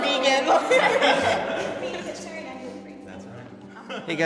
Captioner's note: panelists indistinctly chattering; laughing